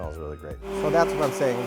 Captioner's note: blender running